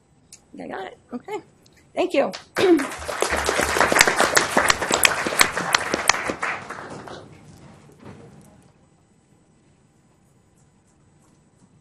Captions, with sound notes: I think I got it, okay, thank you. (applause)